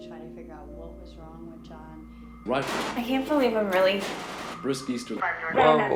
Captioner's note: static crackling